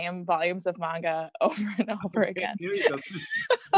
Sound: laughs

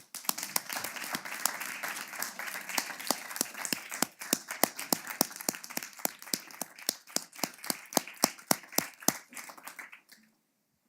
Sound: applause

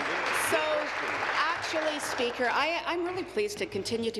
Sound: applause

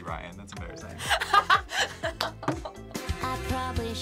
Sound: React laughs

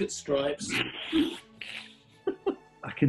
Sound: sniggering

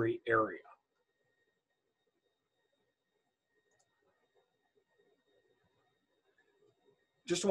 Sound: silence

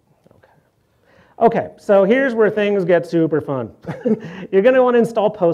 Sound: laughs

